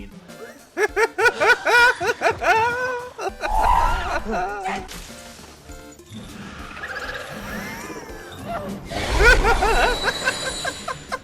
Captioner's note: high-pitched laughter